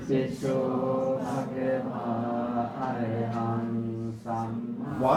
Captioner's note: chanting